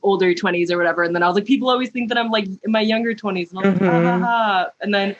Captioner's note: mhmm